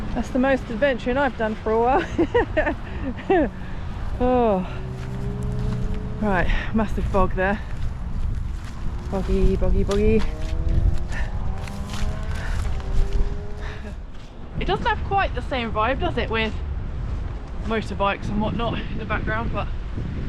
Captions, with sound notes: that's the most adventuring I've done for a while *laughs* uhh right, massive bog there boggy, boggy boggy *motorbike* it doesn't have quite the same vibe, does it with motorbikes and whatnot in the background, but